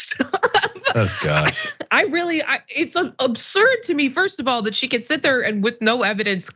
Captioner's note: laugh